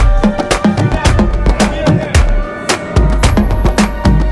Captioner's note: riders shouting